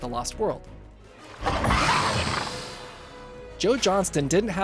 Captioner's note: raptor scream